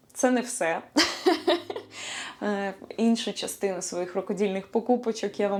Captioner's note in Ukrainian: сміх